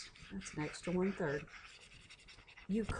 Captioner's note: mouse scribbles